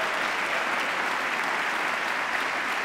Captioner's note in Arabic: تصفيق